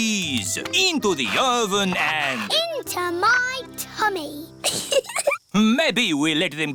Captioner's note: giggles